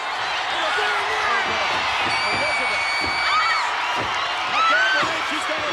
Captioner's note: crowd cheering